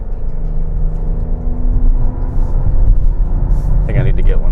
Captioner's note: engine revving